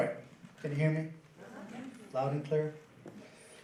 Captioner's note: crowd murmurs affirmatively